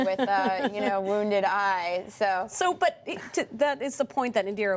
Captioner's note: laughter